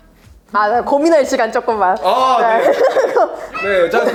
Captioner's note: laughs